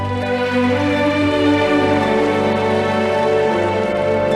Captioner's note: audience applauding